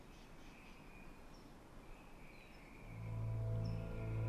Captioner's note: bird chirp